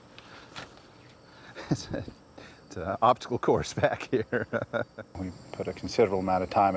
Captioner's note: laughs